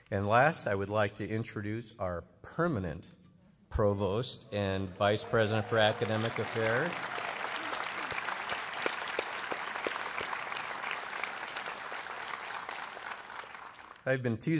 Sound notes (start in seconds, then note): 7.9 applause